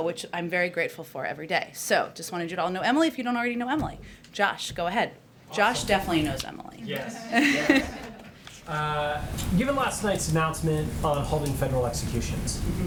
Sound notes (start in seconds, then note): 7.1 laughter